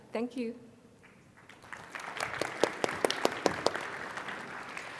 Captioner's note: crowd applauding